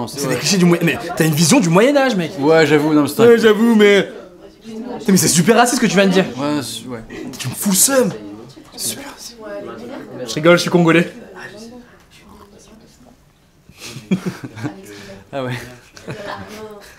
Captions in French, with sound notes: "Mais t'as une vision du Moyen-Âge mec !" "Ouais j'avoue ouais" " "Ouais j'avoue mouais !" " " 'Tain mais c'est super raciste c'que tu viens de dire !" Tu m'fous l'seum ..." (chuchote) "Super raciste ..." "J'rigole j'suis congolais !" *rigolent*